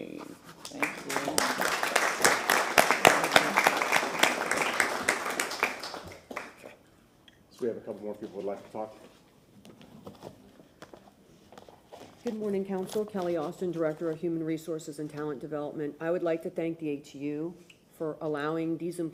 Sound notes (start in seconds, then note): 4.8 applause